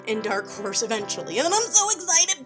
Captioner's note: giddy sounding